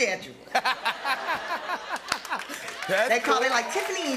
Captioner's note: laughter and applause